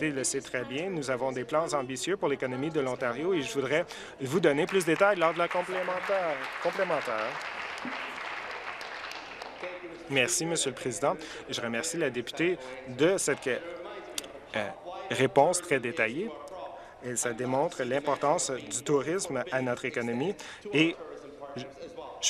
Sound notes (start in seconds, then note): 7.9 applause